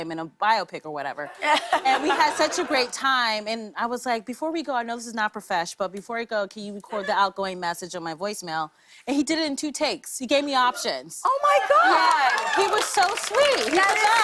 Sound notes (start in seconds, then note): 1.3 laughter; 11.3 cheers and applause